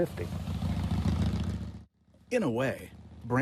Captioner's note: engine rumbling